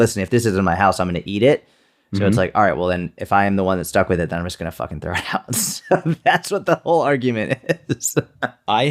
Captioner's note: chuckle